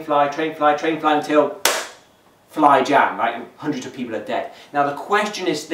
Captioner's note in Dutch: klap